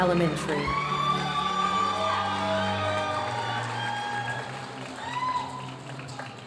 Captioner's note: audience cheering and applauding